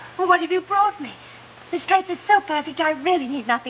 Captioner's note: none